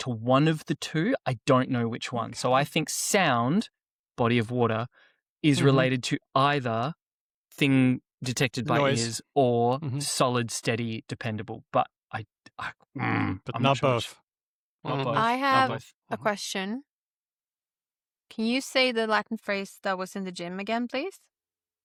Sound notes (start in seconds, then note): 12.9 grunts